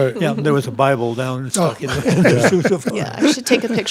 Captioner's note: laughing